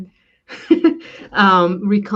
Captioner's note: laughs